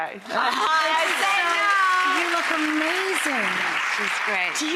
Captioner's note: applause